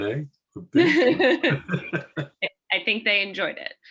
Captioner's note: laugh